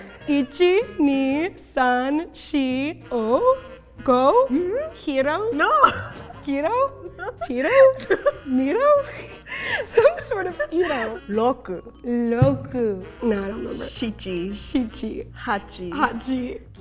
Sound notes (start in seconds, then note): 0.2 counting in Japanese; 5.5 laughing; 11.4 speaking in Japanese